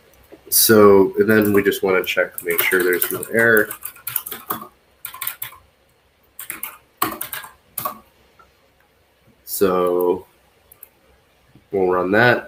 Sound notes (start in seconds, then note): 4.1 keyboard clacks